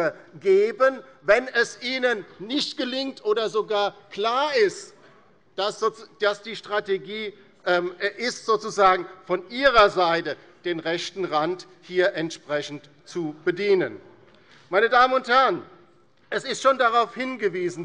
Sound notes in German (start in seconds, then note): none